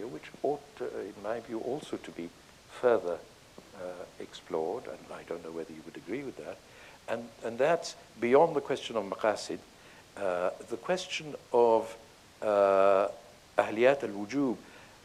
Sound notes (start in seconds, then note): 9.1 speaking in foreign language